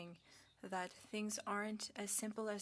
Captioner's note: speaking French